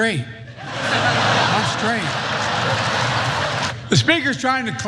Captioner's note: laugh